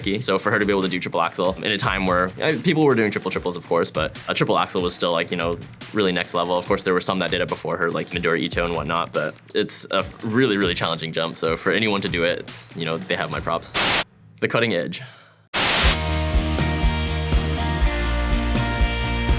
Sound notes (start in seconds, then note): 15.5 white noise; 15.6 upbeat music